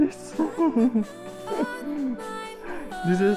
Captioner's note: laugh